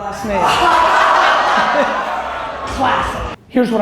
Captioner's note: audience laughter